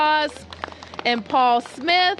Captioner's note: applause